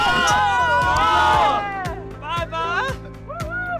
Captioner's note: loud cheering